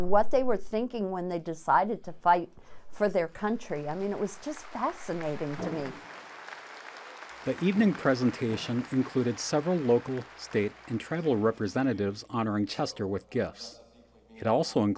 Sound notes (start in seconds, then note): 6.6 applause